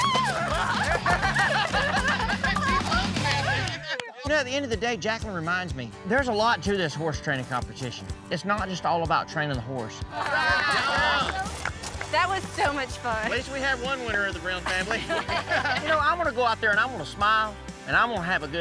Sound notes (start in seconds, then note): 10.1 everyone cheering